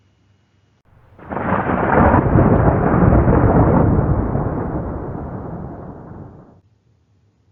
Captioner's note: thunderclap